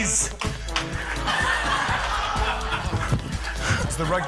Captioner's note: laughter